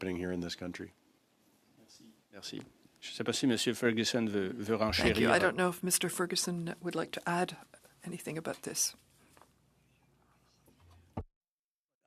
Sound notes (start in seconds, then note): 7.0 speaking French